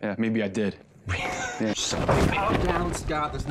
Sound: chuckles

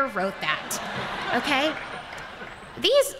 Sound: laughter

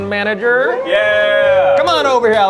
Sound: cheering

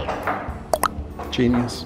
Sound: water plopping

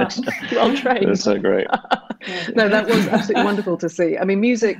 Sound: she laughs

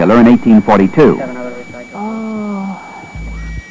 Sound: moaning

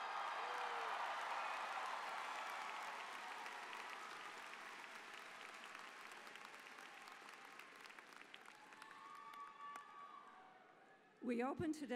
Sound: cheers and applause

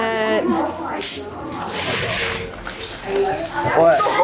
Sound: family chatters excitedly

